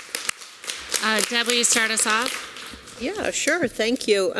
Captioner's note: applause